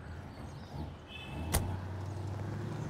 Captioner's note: Car door closing